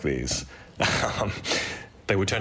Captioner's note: chuckles